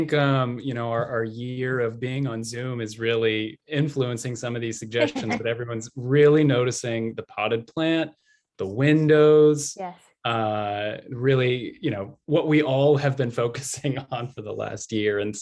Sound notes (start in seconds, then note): 5.0 laughter